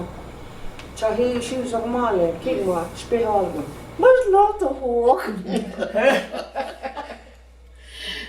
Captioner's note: laughter